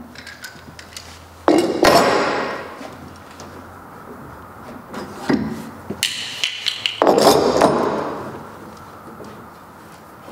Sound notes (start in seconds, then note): 2.2 rumble